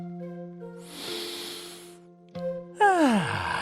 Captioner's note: breathes deeply